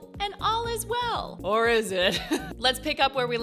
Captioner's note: chuckles